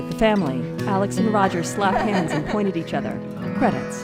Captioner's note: laughing